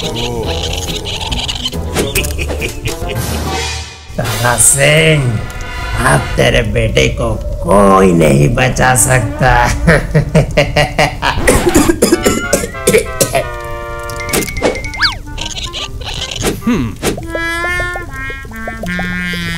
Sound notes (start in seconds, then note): 9.6 villainous laugh; 11.4 cough